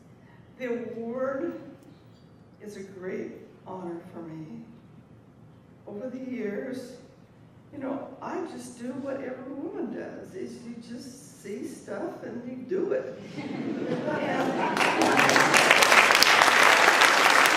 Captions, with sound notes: The award is a great honor for me. Over the years, I just do what every woman does. You just see stuff, and you do it. (laughter) (applause)